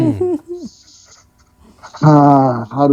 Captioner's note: laughing